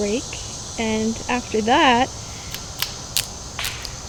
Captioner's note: branches snapping